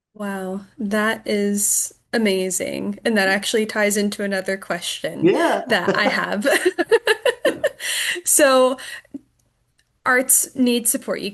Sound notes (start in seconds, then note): 5.2 laughs